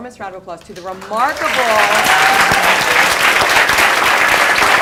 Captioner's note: applause